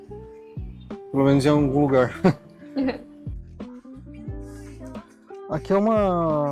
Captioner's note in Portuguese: risadas